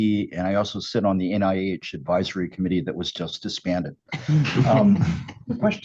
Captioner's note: laughter